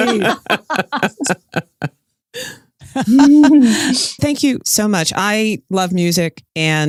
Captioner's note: laughs